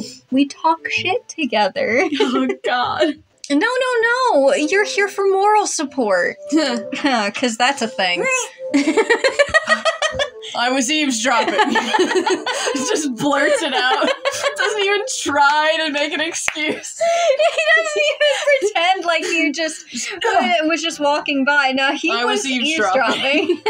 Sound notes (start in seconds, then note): 1.9 giggle; 8.6 laugh; 16.4 laugh; 22.0 laugh